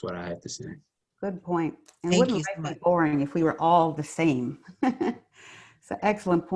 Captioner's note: chuckles